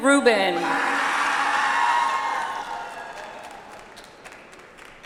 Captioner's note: audience applauds